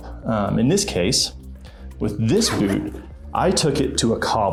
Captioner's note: zipper zipping